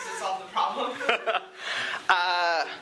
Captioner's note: laughter